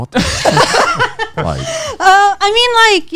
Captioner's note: all laughing